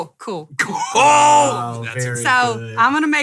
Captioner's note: laughing